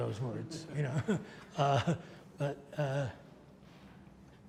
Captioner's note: audience laughs